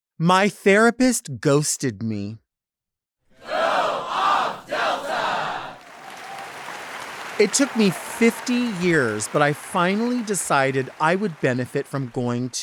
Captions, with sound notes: - My therapist ghosted me. - [Crowd] Go off Delta! (crowd clapping) - It took me 50 years, but I finally decided I would benefit from going